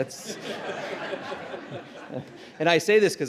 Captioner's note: laughter